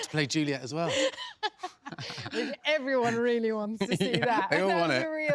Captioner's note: laughs